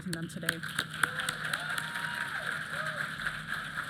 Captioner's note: applause